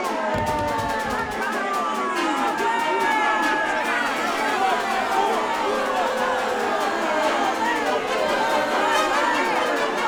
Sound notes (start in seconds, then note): 0.3 thumps; 3.3 yelling and jeering